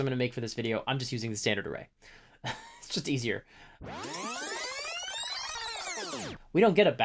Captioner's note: fast-forward sound effect